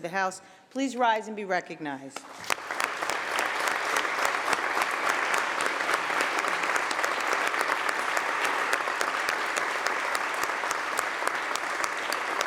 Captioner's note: applause